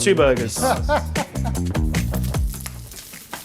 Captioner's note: laughing